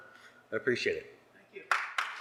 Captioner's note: applause